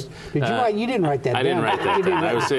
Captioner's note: laughter